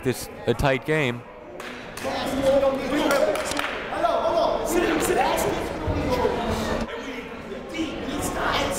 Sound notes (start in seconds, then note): 2.2 shouting